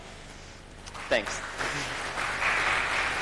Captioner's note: applause